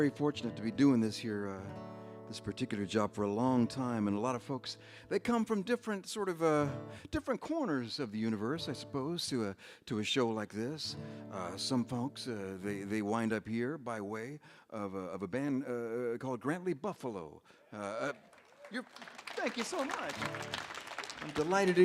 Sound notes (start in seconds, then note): 17.8 audience applauds